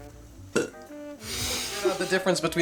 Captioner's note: burp